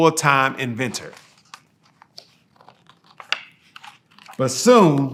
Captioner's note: pages rustling